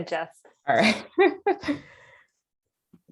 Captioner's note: laughs